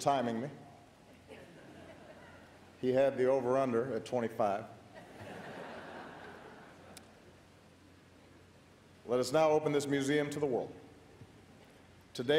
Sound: laughter

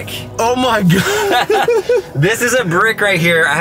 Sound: laughing

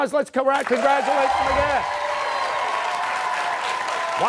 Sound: cheers and applause

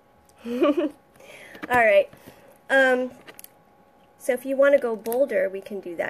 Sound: chuckles

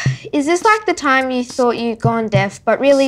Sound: sighs

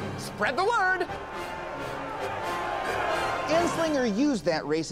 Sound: mob shouting

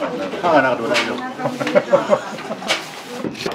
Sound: laughter

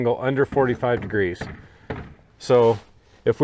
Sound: hammer banging

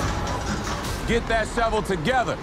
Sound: dramatic music; metal rattling

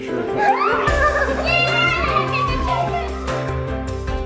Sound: squealing

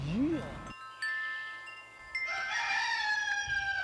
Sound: rooster crows

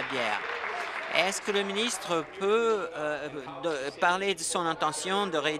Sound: applause

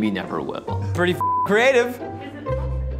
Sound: beep

